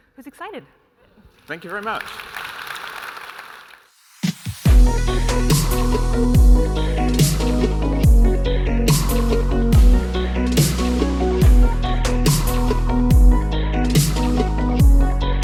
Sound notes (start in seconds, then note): 2.9 audience applauding; 5.0 uptempo electronic music